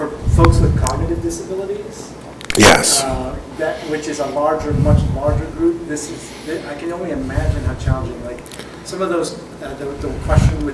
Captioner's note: speaking off microphone